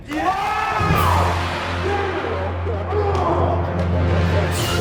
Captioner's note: cheers and applause